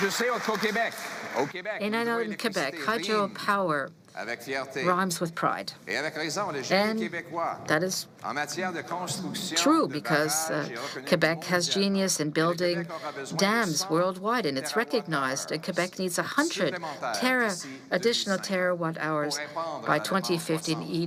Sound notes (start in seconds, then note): 1.7 cheering and Applause; 4.1 speaking French